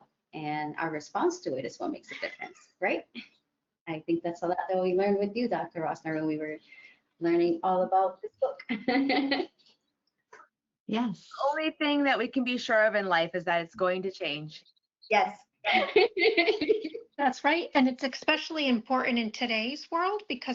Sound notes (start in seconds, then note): 8.7 laughs; 15.7 laughter